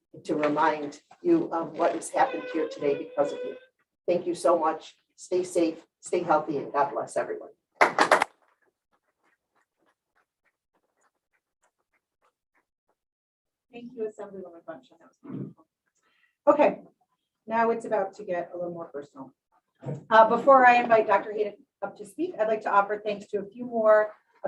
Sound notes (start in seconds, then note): 7.8 applause